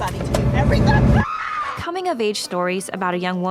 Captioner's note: screams